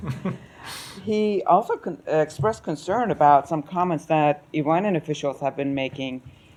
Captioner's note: laughter